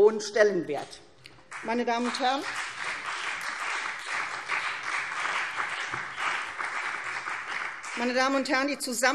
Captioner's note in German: Beifall CDU und BÜNDNIS 90/DIE GRÜNEN